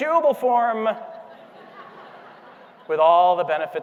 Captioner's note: audience laughing